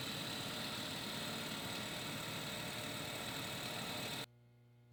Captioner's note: machine roaring